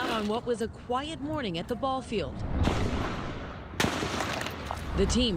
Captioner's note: gunfire